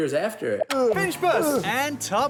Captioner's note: grunts